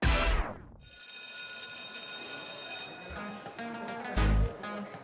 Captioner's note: school bell ringing; upbeat music